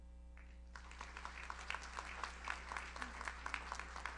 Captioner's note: audience applauds